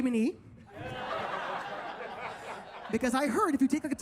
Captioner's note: audience laughs